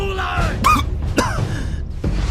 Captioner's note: coughs